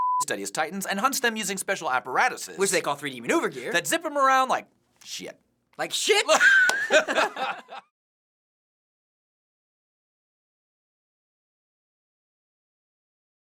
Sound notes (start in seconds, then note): 6.2 cracking up; 7.9 silence